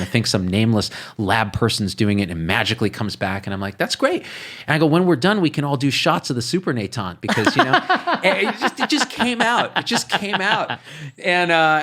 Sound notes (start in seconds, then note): 7.3 laughing